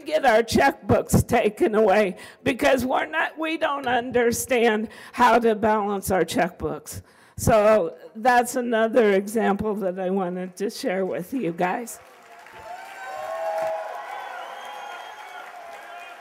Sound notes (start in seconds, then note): 13.2 applause